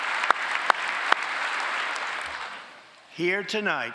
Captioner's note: applause